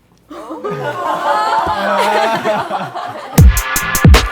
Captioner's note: group laughing; hip hop music